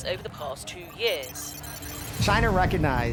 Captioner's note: computer calculating sound effect